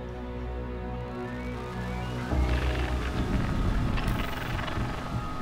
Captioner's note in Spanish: Ruido estático